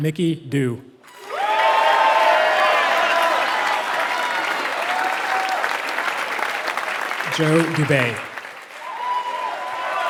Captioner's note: applause